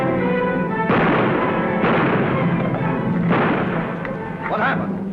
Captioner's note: gunshots